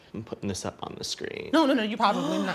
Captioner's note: gasps